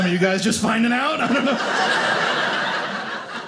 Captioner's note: audience laughing